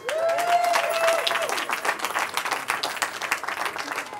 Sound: cheering

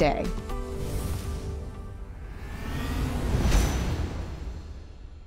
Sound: whooshing and music fades

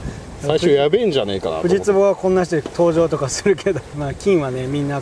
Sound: haha

